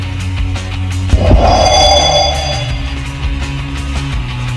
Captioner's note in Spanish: Sonido de teletransportacion